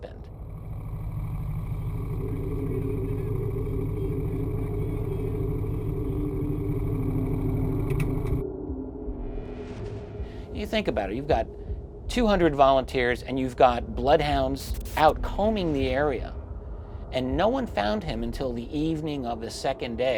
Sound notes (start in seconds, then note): 0.1 ATV engine whirring; 2.6 indistinct shouting